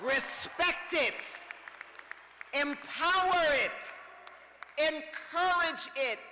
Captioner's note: cheers